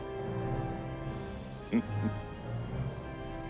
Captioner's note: chuckling